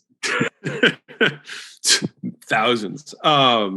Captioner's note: Alex laughs